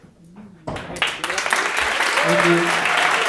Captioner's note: audience applauding